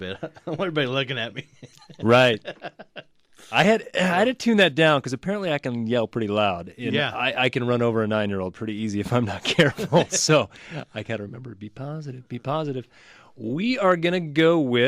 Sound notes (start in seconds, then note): 0.0 laughs; 9.5 both laugh